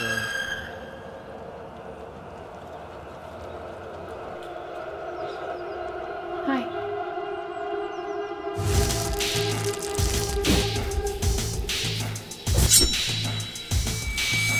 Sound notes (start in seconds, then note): 0.2 tense music; 8.9 plastic unrolling; 10.1 tense music